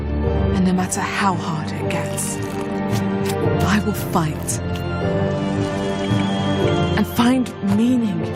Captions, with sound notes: And no matter how hard it gets, I will fight. [kettle whistles]